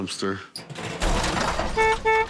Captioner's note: horns honking